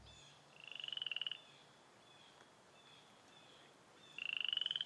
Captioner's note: frogs croaking